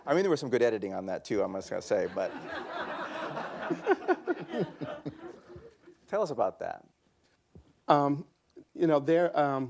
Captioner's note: laughter